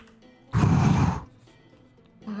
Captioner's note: heavy sigh